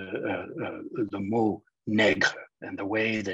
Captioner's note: speaking in foreign language